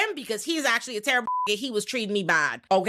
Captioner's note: beep